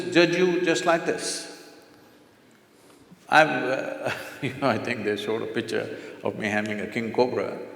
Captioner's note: laughs